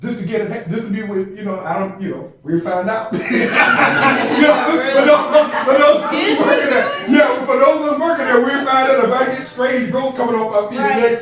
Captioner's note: laughter and chatter